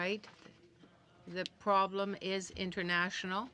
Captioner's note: speaking French